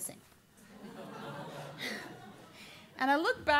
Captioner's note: laughter